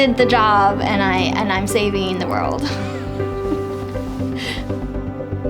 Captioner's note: laughs